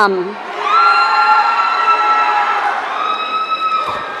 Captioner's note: audience cheering